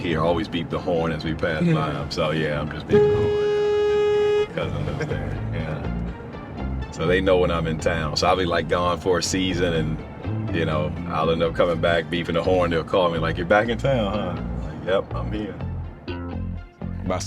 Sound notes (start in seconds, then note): 2.8 horn beeping